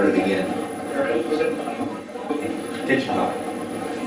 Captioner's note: static playback transmitting